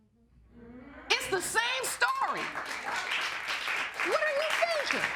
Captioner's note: audience applauding